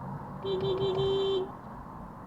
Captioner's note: beepbeepbeepbeeeep